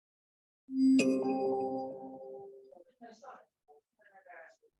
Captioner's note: software chiming